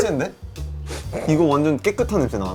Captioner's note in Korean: 킁킁